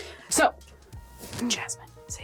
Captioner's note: none